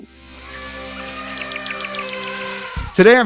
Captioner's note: birds chirping; elephant trumpeting